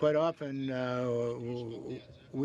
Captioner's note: speaking French